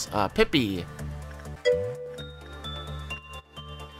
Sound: ding

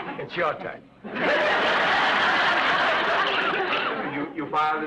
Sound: audience laughs

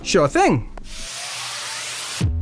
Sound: whirring of the logo

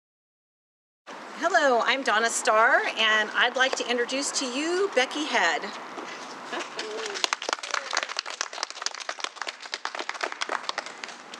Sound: clapping

